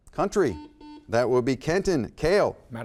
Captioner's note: buzzer beeps